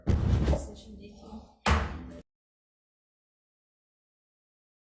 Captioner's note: gavel strikes